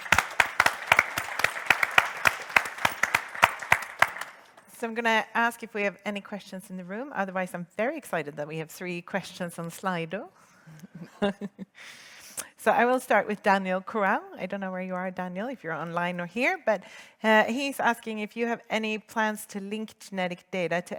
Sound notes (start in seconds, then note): 0.0 audience applauds; 10.7 chuckles